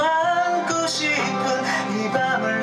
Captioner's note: gasp; takes a big breath and continues